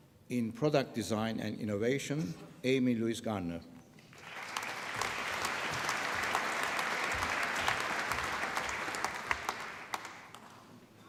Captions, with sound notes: In Product Design and Innovation... Amy Louise Gardner. (APPLAUSE)